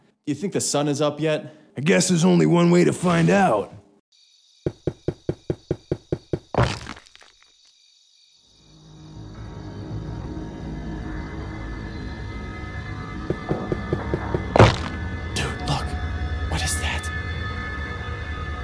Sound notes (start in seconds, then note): 15.7 whispering